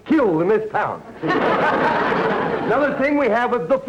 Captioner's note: audience laughter